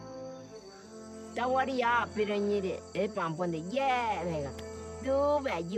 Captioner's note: speaking in foreign language